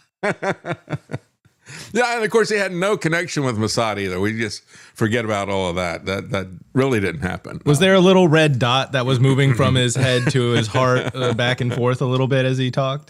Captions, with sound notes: (Laughing) Of course, he had no connection with Mossad either. We just forget about all of that. That really didn't happen. Was there a little red dot that was moving from his head to his heart back and forth a little bit as he talked?